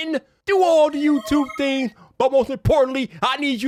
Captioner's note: subscriber chimes